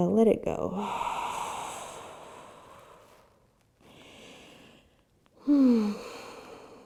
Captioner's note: breathes deeply